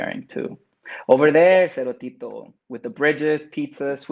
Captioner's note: speaks Spanish